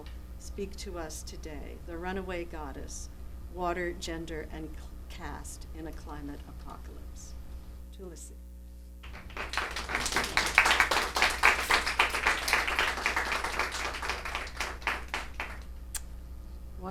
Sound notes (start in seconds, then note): 9.0 applause